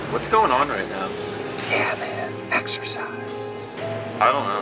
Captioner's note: ghostly Voice